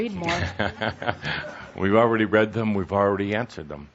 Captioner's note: chuckling